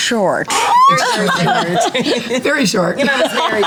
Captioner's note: group laughs